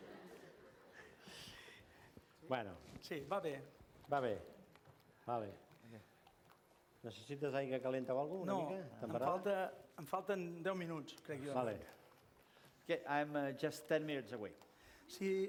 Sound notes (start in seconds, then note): 3.4 non-english speech